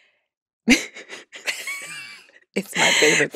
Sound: laughs

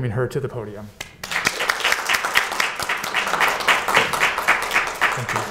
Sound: students clapping

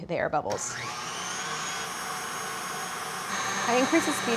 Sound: mixer whirring

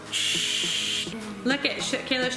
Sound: spraying noise

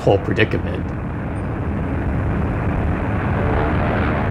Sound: soundbite of airplane engines roaring

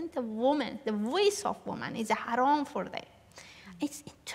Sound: non-english

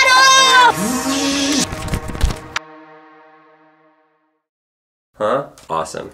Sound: dad makes buzzing noise

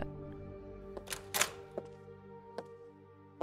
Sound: door opens

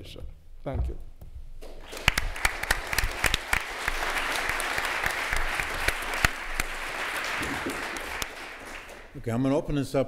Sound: applause

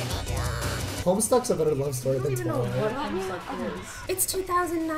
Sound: laugh track

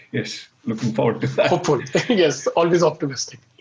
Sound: laughs

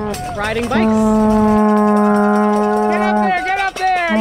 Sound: vuvuzela horn bellows

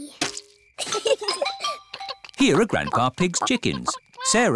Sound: both giggle

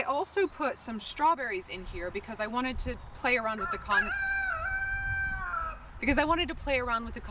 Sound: rooster crows

